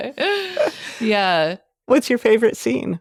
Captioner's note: both chuckling